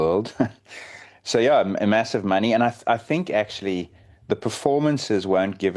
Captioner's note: laughs